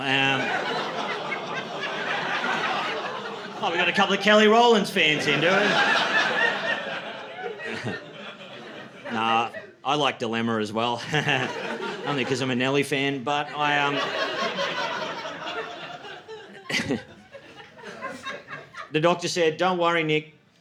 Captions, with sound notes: [LAUGHTER] We got a couple of Kelly Rollins fans in, do we? [LAUGHTER] I like dilemma as well, only because I'm a Nelly fan, but I am... [LAUGHTER] The doctor said, "Don't worry, Nick.